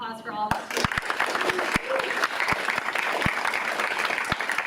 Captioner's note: audience applauds